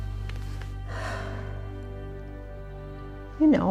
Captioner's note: sighs